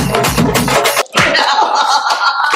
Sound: slaps; burst in laughs

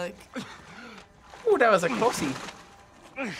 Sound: Joel coughs

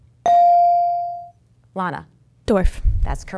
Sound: dinging

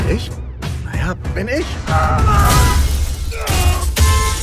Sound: screaming and grunting; car horn honking

